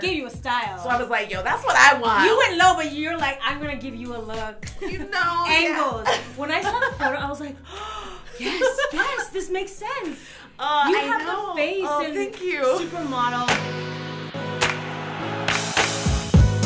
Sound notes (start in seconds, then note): 4.4 laughs; 7.6 gasps; 8.6 laughs; 13.8 upbeat music